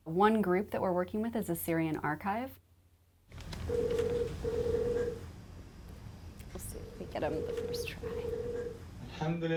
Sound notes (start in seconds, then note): 3.6 phone ringing